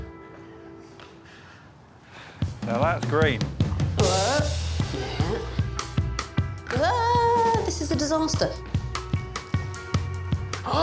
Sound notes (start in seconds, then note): 6.8 wailing